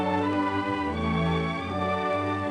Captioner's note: none